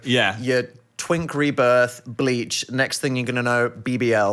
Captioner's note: none